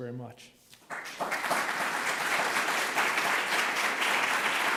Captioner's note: applause